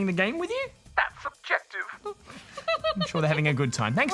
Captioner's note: laughs